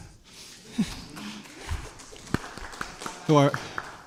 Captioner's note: scattered applause